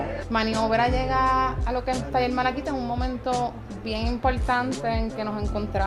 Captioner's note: speaks in foreign language